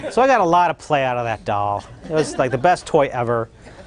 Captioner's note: loud laughter